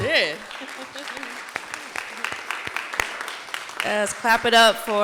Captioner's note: audience clapping